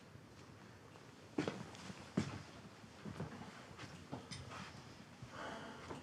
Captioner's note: footsteps thudding; Abe sighs